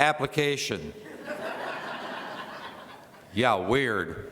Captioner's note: laughter